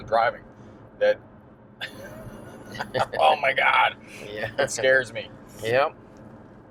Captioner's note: laughs